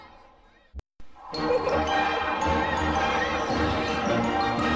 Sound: laughter and music continuing

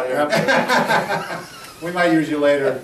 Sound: laughing

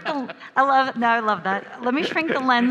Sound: laughs

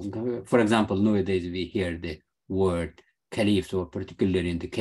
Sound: speaking arabic

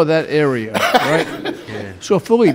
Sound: laughs loudly

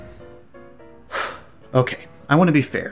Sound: sighs

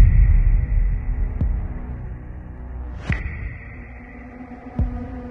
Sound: rumbling tones

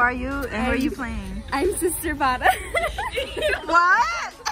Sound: giggles mischievously

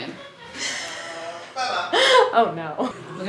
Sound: laughing

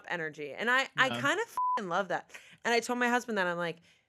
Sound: beep

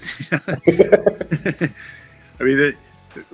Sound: laughter

